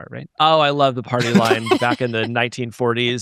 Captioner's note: chuckling